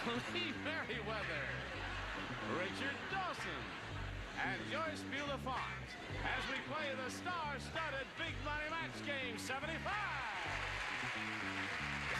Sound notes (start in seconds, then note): 9.5 cheering and applause